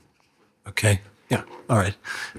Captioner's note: sighs